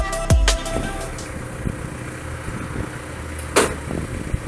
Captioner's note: machine engine sound